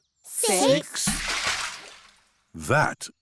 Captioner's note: splash